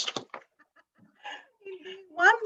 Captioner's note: laughs